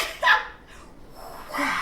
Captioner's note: laughs